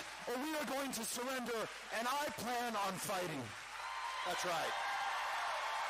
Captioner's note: cheering